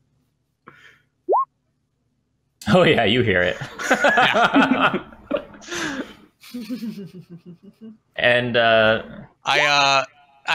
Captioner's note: laughter